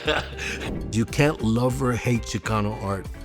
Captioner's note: laughs